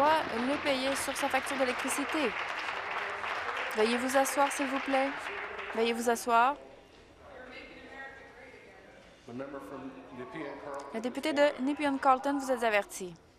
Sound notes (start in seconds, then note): 3.0 applause